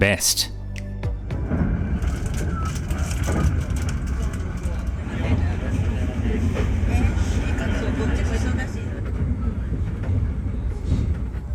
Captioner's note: train noises